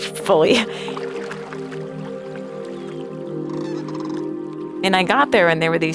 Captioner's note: water sloshing; soft music